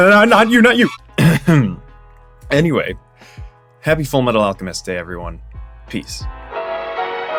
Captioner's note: ahem…